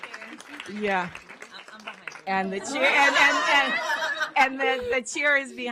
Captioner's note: applause